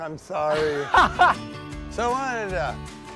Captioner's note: laughs